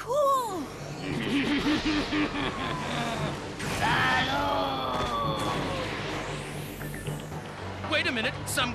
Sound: evil laughing

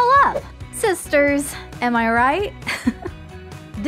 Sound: chuckle

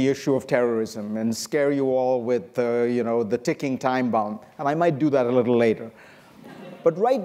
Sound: laughter

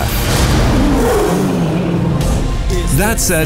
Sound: roar

